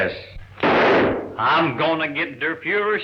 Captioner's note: gun firing